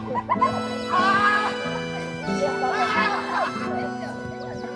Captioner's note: laughing and screaming